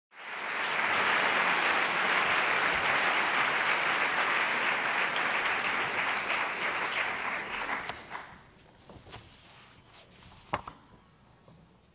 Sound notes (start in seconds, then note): 0.1 applause